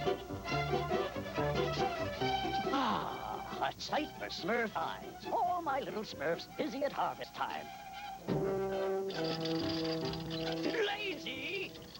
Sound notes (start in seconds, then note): 0.0 clipping; 8.7 wheels squeaking